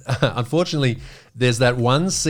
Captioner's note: laughing